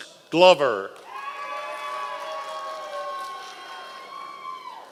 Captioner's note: audience applause